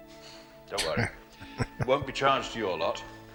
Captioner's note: chuckling